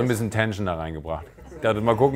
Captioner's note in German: none